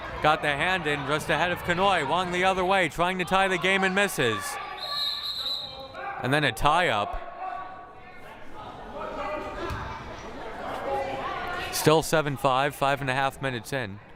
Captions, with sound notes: got the hand in ahead of Kanhoye. Wong the other way, trying to tie the game and misses. (whistle blaring) And then a tie-up. (crowd murmuring) Still 7-5, 5 1/2 minutes in.